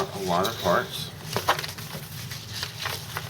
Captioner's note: paper crinkles